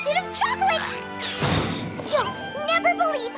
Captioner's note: crash